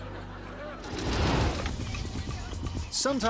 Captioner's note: audience laughing; whimsical music; logo swooshing